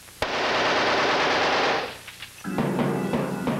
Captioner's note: machine-gun fire